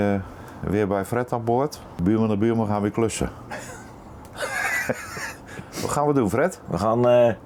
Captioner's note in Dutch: gelach